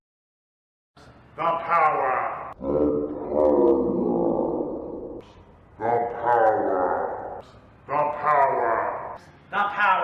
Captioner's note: echoing